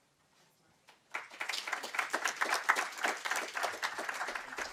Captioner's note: audience clapping